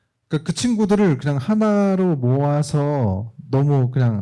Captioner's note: speaking korean